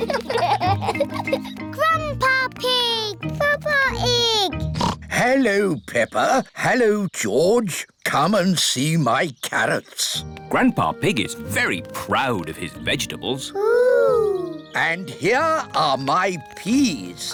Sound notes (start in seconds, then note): 4.6 oinks